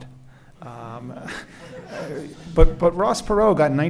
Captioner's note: laughing